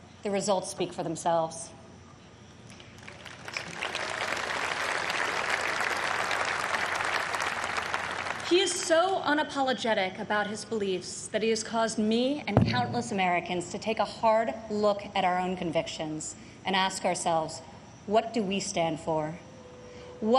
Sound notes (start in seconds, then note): 6.0 applause